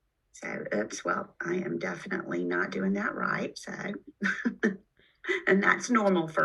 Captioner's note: laughs